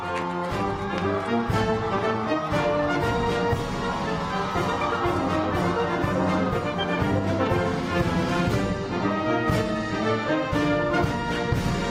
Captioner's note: cheers and applause